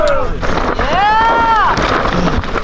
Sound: crowd

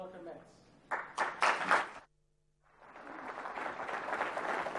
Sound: applause

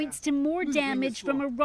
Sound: speaking Foreign Language

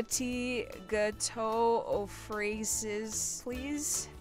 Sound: speaking in France

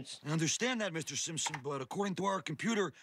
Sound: keyboard clack

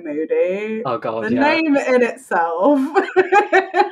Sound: laughs

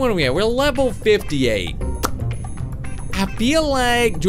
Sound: lip smacks

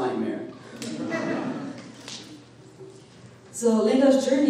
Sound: audience laughing

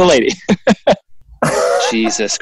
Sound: laughing

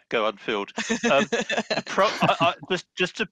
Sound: chuckles

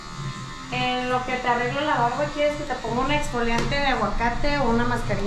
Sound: speaking in Spanish

